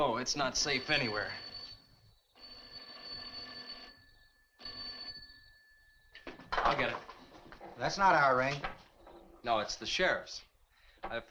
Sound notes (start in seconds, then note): 0.0 telephone rings